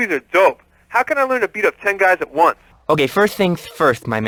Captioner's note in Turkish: peltek konuşur